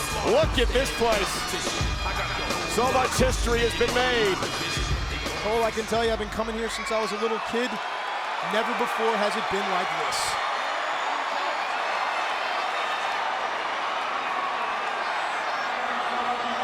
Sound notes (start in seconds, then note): 11.2 audience cheering